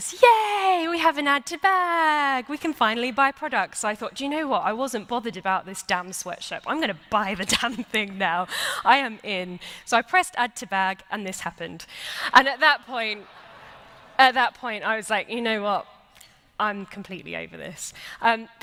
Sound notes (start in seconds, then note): 13.1 laughter